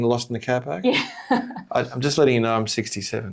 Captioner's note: laughs